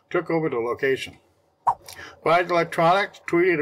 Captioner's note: swipe Sound